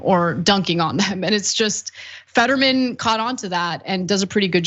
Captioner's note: laugh